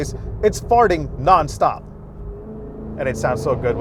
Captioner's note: engine revving